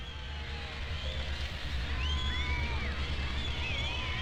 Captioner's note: crowd cheering